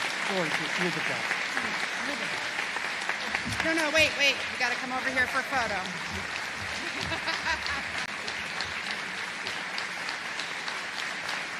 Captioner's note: applause